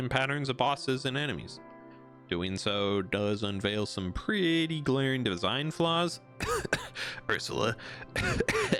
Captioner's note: cough